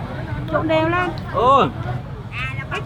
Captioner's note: speaking Vietnamese